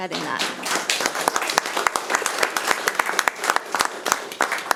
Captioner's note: audience applauding